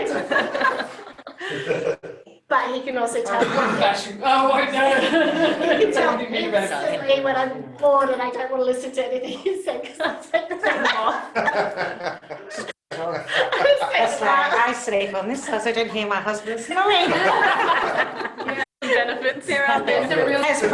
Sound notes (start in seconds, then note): 9.8 laughter; 20.5 laughter